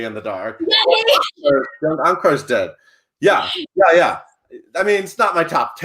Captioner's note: voice muffled